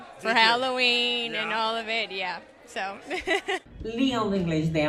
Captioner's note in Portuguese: risadas